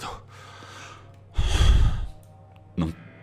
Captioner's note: sigh